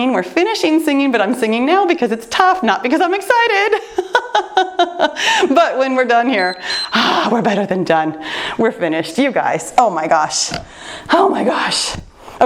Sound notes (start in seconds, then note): 4.2 laughing; 6.3 timer beeps